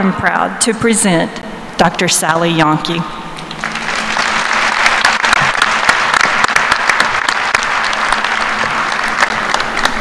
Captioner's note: applause